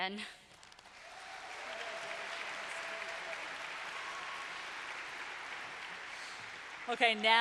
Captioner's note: applause - Cheering